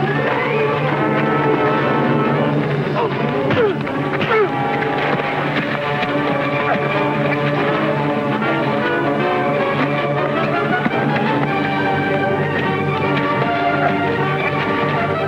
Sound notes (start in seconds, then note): 0.4 tense dramatic music; 3.5 Bill groans; 3.6 fist pounding; 7.0 tense dramatic music